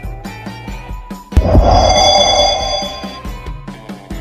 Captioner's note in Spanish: Sonido de Teletransportacion